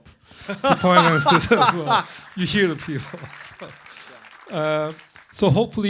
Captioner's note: laughter; applause